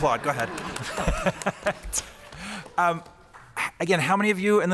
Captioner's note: applause